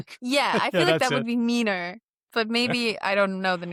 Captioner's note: laughs